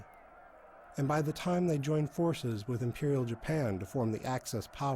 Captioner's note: cheers